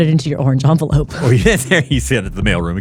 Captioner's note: laughing